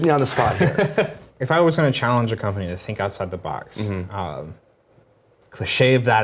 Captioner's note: laugh